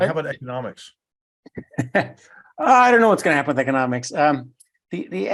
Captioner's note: laugh